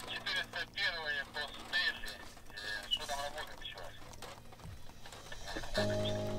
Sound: radio exchange

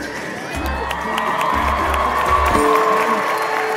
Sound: people cheering

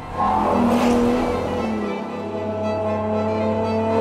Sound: engine revving

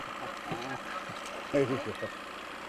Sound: chuckling; boat engine idling

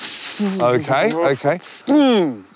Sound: hisses, groans

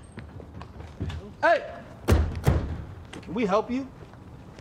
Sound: car doors slamming

